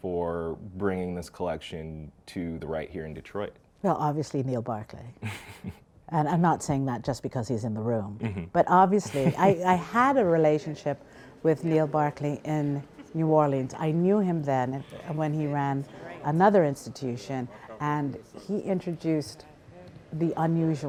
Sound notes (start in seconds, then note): 5.2 laughs; 8.2 laughs